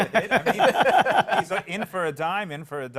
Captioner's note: laughter